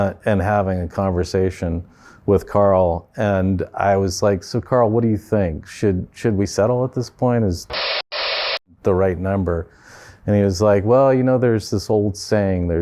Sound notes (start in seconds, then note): 7.7 static